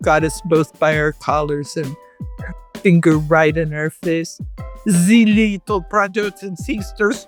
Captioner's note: Russian accent